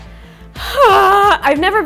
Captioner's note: dramatically sighs